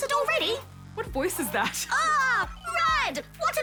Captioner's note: laughs